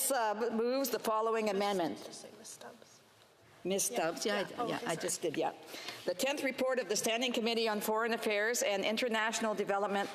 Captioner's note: speaking French